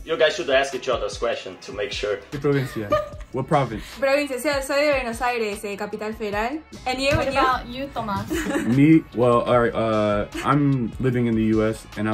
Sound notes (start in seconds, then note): 2.4 laughs; 2.4 speaks in Spanish